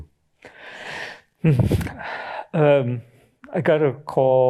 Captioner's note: sighs